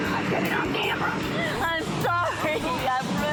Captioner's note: whispers; tearfully